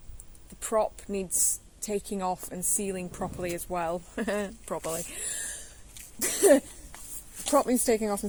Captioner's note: laughs